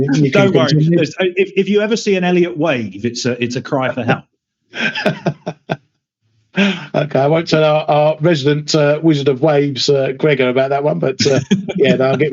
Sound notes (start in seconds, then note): 4.7 laughs